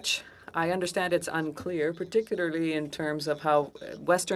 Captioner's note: speaking French